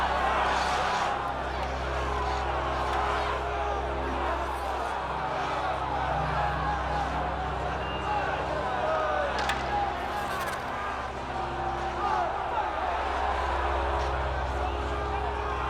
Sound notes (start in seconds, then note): 2.3 crowd shouting